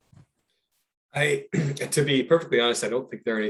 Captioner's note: clears throat